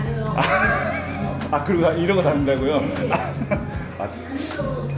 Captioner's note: laughs